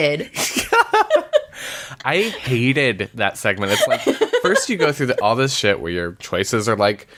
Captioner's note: laughs; laughs